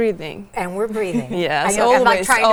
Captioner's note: laughs